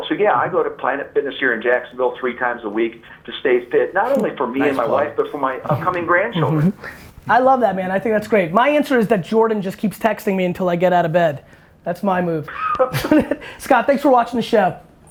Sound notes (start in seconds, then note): 6.9 laughs; 12.5 laughs